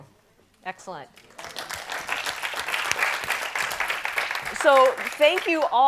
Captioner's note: all applaud